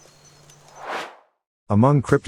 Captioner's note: air swooshes